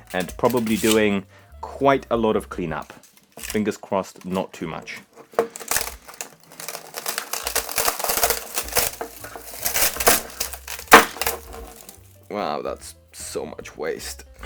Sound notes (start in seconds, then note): 4.9 rattling